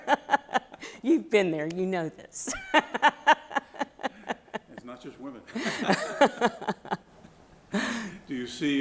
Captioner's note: laughter